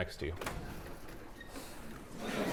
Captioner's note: door opens